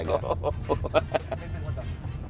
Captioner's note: laughs